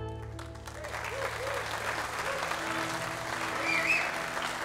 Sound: audience applauds

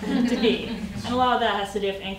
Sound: audience laughing

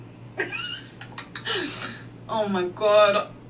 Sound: laughing

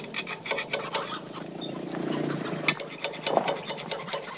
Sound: chickens clucking

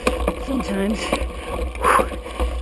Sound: exhales

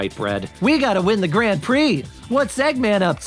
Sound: Mocking Sonic voice

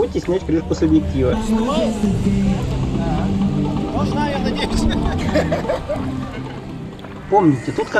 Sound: laughs

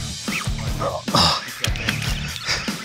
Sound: grunting

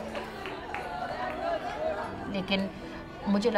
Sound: speaking urdu

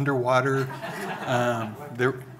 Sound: audience laughing

